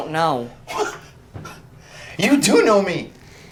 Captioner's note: chuckles